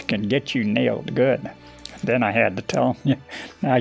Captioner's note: chuckles